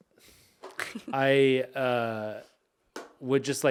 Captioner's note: chuckling